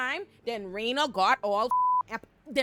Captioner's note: beep